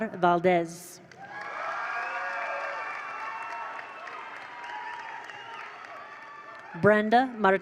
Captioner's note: attendees cheer; attendees applaud